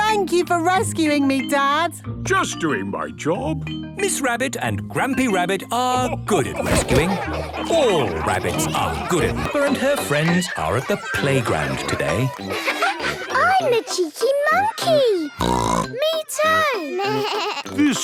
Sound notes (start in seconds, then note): 15.4 bleating; 15.4 snorts